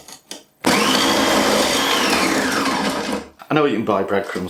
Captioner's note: noisy grating machine